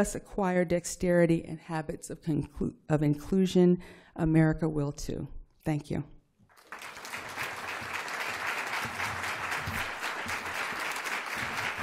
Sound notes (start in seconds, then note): 6.5 applause